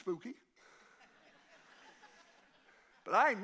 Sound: congregation laughing

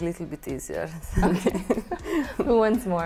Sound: laughs

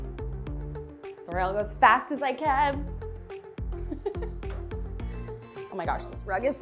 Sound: laughs

